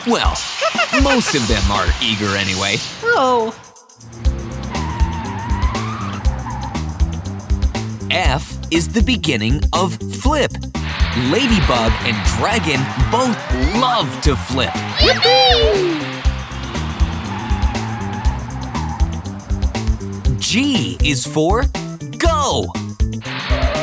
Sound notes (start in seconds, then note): 4.6 screeching; 17.0 screeching